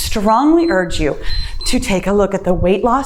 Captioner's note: timer beeps